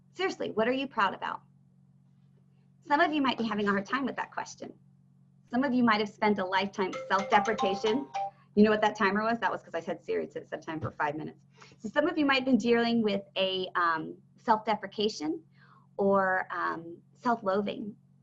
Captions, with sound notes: Seriously, what are you proud about? Some of you might be having a hard time with that question. Some of you might have spent a lifetime of self-deprecation. (phone ringing) You know what that timer was? That was 'cause I said, "Siri, "set a set timer for five minutes". So some of you might be dealing with a self-deprecation or self-loathing.